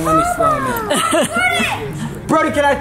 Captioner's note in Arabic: الأم تضحك